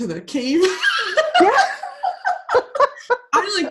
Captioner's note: laughing